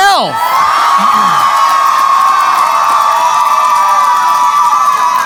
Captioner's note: cheering